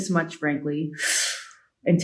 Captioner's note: inhales